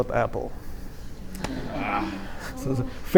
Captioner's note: laughter